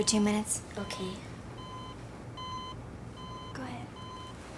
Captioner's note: machines beeping